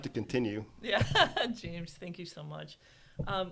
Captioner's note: laughs